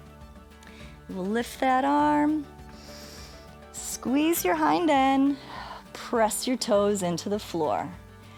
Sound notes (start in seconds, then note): 2.7 inhales